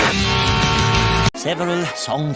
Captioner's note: beeeeeeep